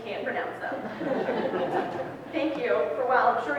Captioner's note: audience laughs